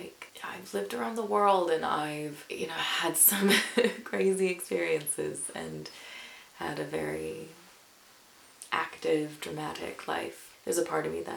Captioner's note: chuckles